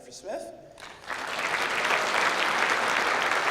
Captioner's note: clapping